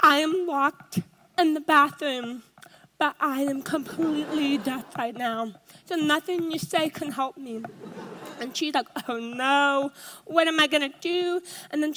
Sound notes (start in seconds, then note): 7.7 audience laughs